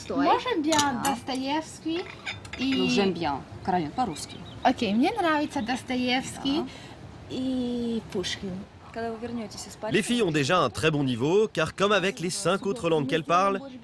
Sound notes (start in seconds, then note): 3.3 continues in Russian